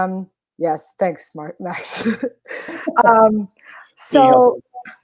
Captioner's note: laughs